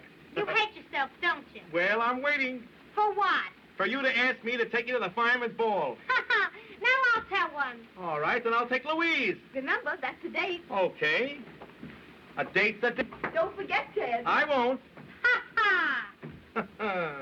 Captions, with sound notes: YOU HATE YOURSELF, DON'T YOU? WELL, I'M WAITING. FOR WHAT? FOR YOU TO ASK ME TO TAKE YOU TO THE FIREMAN'S BALL. [ Laughs ] NOW I'LL TELL ONE. ALL RIGHT. THEN I'LL TAKE LOUISE. REMEMBER. THAT'S A DATE. OKAY. A DATE'S A DATE. DON'T FORGET, TED. I WON'T. HA HA! HA HA.